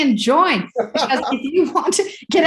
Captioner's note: chuckles